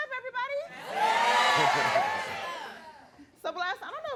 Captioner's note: audience cheering